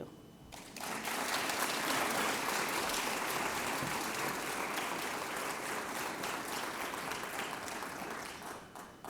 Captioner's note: applause